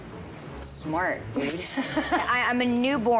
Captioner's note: laughing